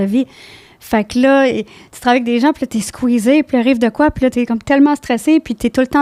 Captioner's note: in french